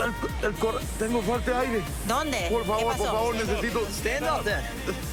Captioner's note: speaking spanish